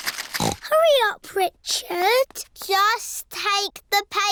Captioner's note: snorts